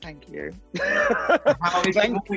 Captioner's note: laughing